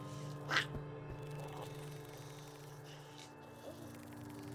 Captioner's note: Giree squawks